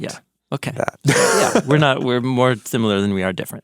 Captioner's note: person laughing